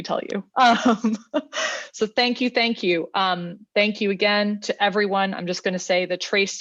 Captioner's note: laughter